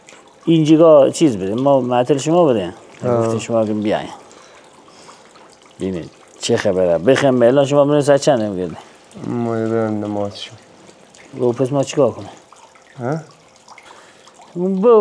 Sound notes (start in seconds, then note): 0.0 speaking in local dialect; 6.1 speaking in local dialect